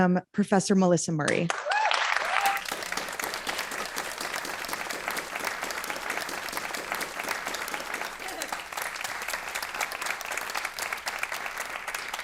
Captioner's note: applause